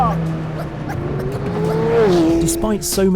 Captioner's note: engine roaring; lively music